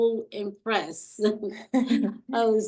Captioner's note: chuckling